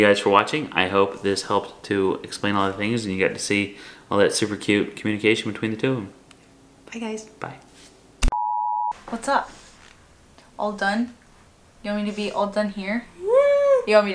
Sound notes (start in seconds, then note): 8.3 beeping; 13.1 hums agreement